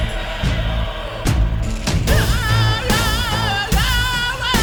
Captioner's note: chanting